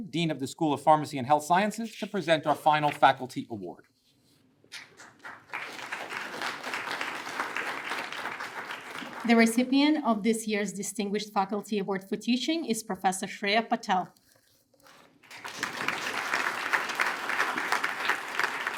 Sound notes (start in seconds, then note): 4.8 attendees applaud; 15.2 attendees applaud